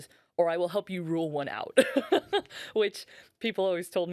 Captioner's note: laughing